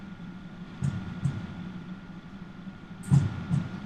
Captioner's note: heart beats